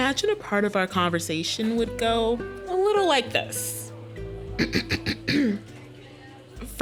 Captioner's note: clears throat